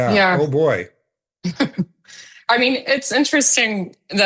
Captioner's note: chuckling